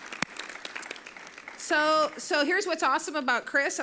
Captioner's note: applause